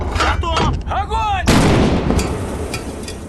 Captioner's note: sound of a gunshot